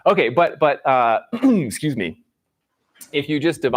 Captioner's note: clears throat